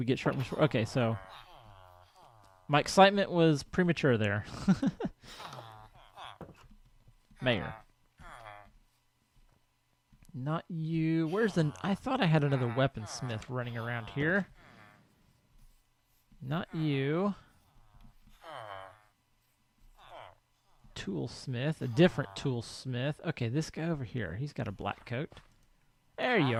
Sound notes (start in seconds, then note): 8.1 laugh; 18.0 chattering continues